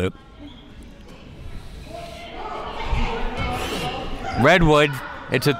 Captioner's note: crowd murmuring